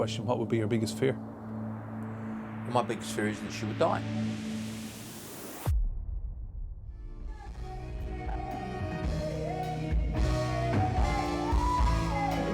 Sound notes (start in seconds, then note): 5.6 wind whooshing